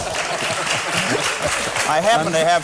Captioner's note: laughter and applause